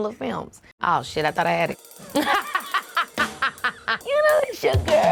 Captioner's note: laughing